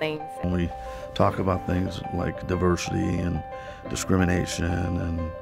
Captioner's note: none